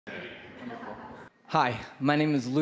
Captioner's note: audience chuckling